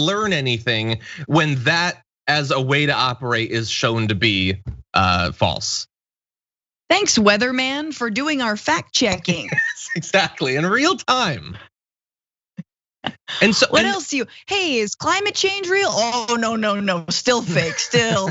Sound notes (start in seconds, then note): 9.1 laugh